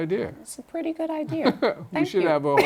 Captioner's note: laughter